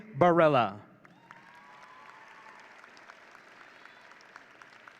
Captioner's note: audience cheering